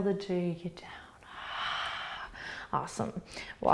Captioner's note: exhaling